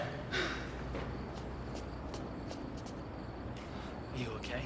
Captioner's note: crickets stridulate; Pauline gasps for air